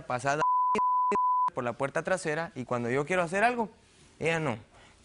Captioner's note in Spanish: Bip